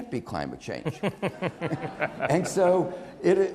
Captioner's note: Nick laughs